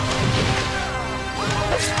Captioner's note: thud